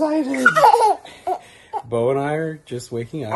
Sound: baby giggling

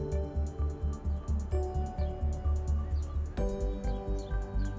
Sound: birds chirpping

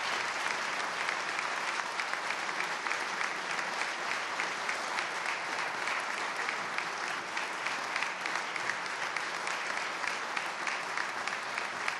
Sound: applause

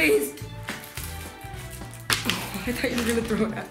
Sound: thumping

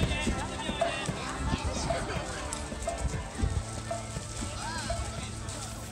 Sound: people speaking Japanese

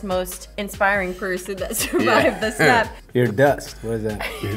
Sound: laughs

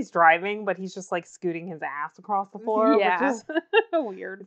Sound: laughs

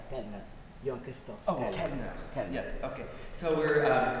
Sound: speaking french

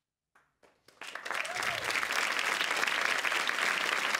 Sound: applause

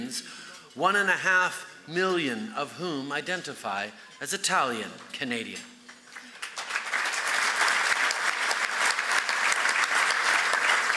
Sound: applause

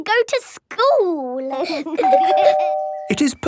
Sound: door bell ringing

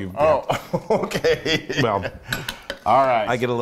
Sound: laugh

